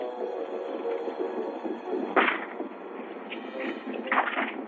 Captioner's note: gunshots and horses galloping